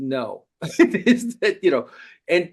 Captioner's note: laughing